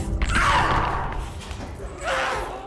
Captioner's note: masked figure groans; Abby shouts; masked figure groans